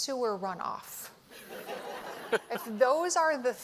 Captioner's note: laughter